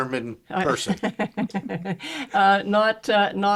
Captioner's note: chuckling